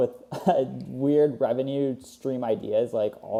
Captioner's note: laughs